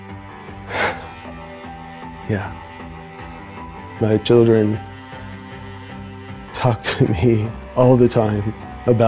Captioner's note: sighs